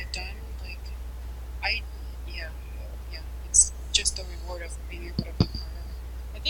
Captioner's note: mic cuts out